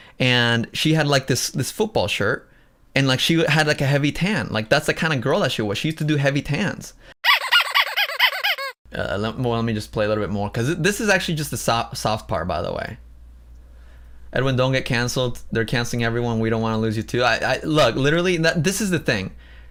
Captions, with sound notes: and she had, like, this-- this football shirt and, like, she had, like, a heavy tan, like, that's the kind of girl that she was, she used to do heavy tans. "[squeaky toy sound]" Well, let me just play a little bit more because this is actually just the soft part, by the way. "Edwin, don't get canceled. They're canceling everyone we don't want to lose you too." Look, literally, that-- this is the thing